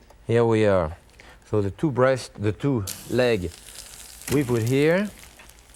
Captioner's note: meat sizzles